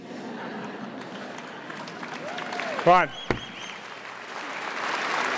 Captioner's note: audience laughs and cheers